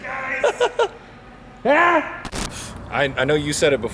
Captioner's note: laughing